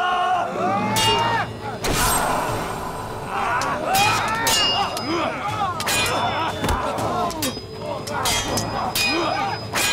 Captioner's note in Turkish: Dövüş sesleri